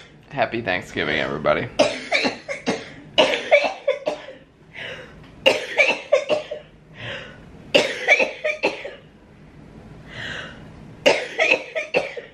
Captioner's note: coughing